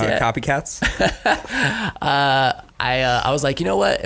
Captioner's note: laughs